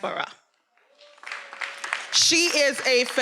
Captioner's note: attendees applauding; attendee cheering